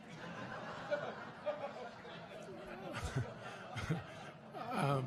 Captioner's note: audience laughing